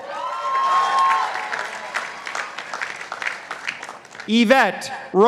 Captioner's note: participants applauding